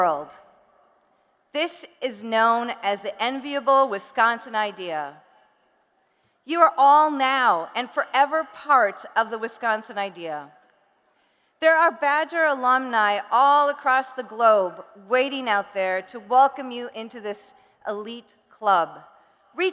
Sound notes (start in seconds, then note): none